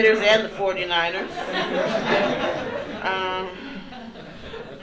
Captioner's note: laughter continues